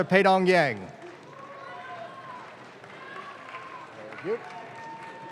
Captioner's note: audience claps